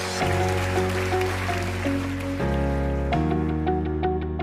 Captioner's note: applause